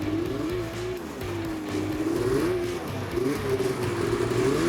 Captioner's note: upbeat music; engine whirring